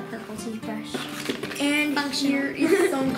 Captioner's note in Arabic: يضحك